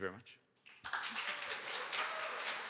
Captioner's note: applause